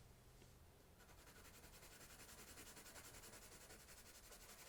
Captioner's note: pencil scratching